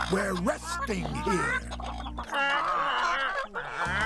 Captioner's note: chickens clucking louder